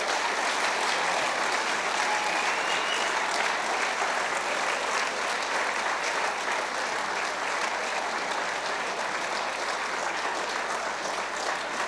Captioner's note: cheers and applause